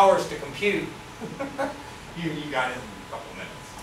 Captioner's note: laughs